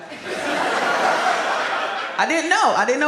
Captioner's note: audience laughs